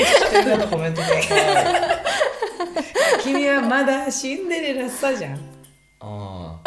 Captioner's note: laughs